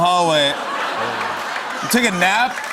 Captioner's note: laughter and applause